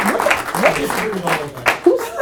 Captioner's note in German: Voice-over